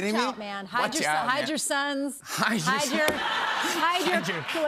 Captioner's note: laughter